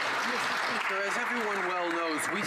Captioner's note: some Applause